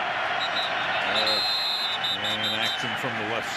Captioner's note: whistle